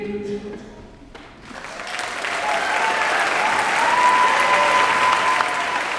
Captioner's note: applause